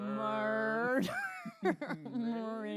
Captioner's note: laughing